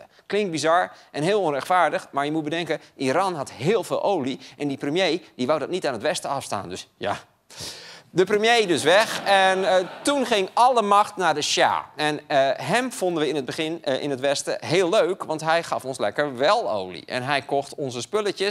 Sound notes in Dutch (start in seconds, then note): 11.2 gelach